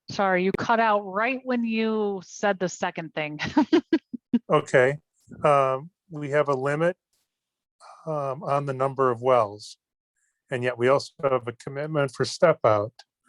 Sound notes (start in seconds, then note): 3.5 laughs